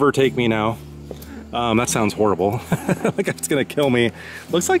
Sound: laughing

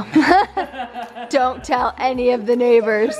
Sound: laughing

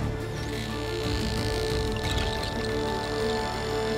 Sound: dramatic music playing; dolphins clicking

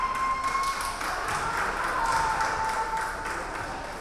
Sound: crowd cheering

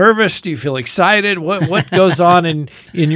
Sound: laughs

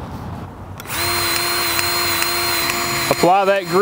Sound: grease gun revving

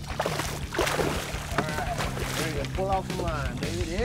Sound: fish splashing

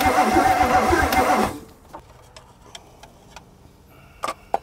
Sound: vehicle engine stops; vehicle engine humming; metal clacking

